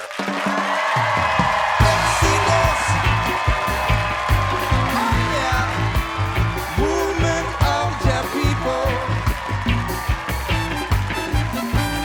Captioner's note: cheers and applause